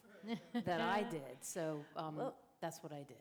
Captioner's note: laughter